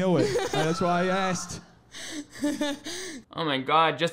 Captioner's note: laughs